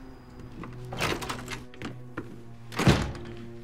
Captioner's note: car door opens; door shuts